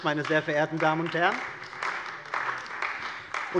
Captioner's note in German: Beifall bei der CDU und dem BÜNDNIS 90/DIE GRÜNEN